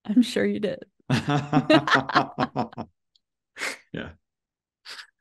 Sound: both laugh

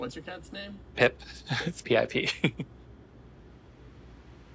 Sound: laughs

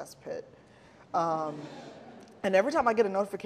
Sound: audience laughing

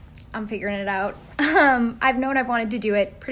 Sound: laugh

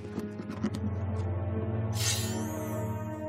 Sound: scampering footsteps

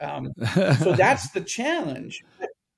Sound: chuckles

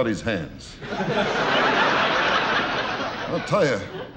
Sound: audience laughing

